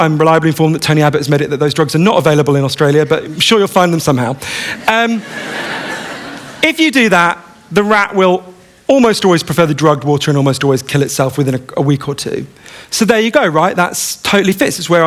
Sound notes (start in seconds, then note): 4.8 laughter